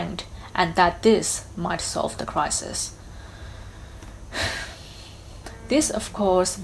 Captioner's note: sighs